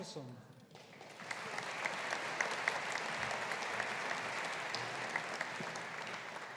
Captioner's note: audience applauding